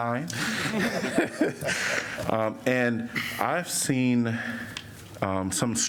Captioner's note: laughter